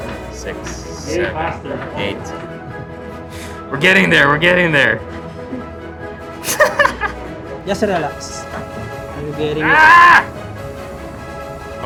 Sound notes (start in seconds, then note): 6.4 laughs; 9.6 grunts